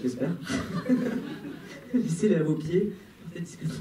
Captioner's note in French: rires